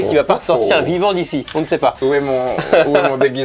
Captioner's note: laughs